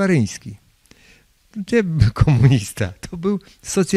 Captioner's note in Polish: śmiech